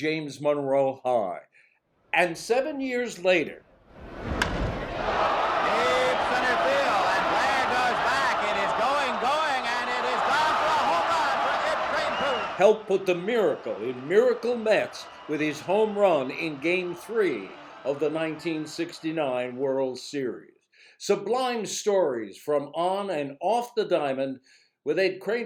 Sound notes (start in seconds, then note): 4.4 bat hitting a ball; 5.7 crowd cheering